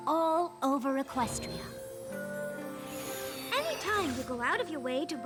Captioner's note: tinkling